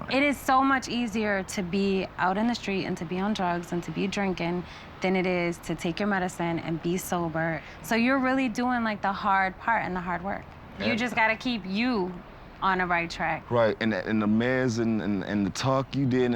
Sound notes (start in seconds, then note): none